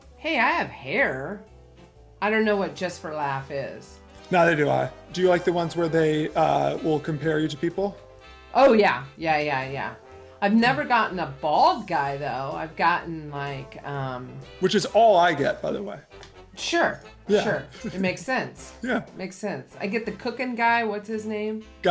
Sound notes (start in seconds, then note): 17.3 chuckles